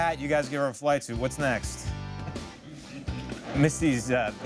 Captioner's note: laughing